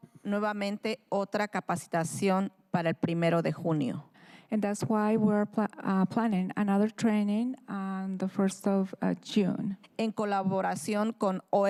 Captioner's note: speaking in spanish